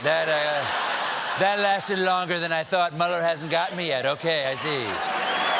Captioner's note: cheers and applause